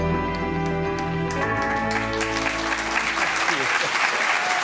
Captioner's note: applause